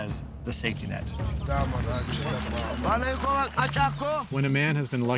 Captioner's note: speaking local language